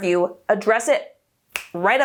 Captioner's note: fingers snap